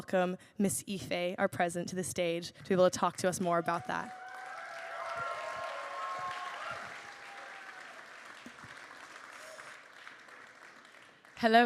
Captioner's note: applause